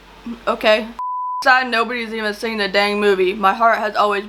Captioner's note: beep